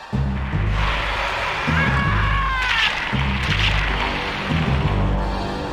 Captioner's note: footsteps; garbled screaming and dinosaur noises, followed by unpleasant crunching; Sounds of the T Rex being a silly goose